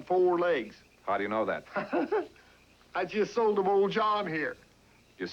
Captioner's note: laughing